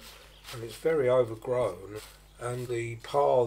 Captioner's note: sounds of weeding